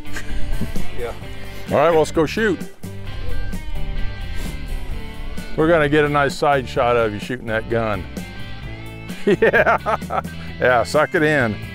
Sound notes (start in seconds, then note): 0.0 chuckles; 9.0 laughing